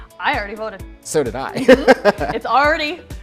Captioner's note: laughs